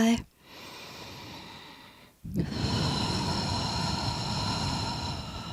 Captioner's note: breathes in deeply, sighs softly